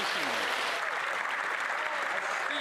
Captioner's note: applause